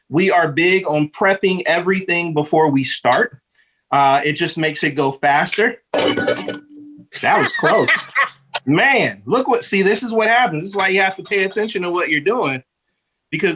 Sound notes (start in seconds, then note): 5.9 bowl clanking; 7.3 laughing